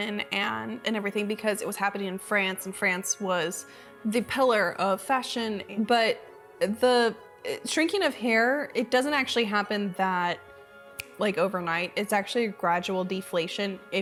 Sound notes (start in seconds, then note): 10.9 snapping